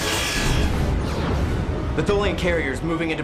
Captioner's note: explosion